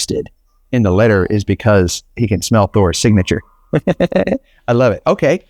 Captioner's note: chuckles